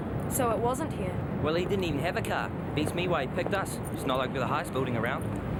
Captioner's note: none